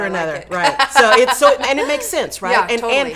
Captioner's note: laughing